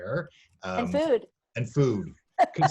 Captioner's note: laughs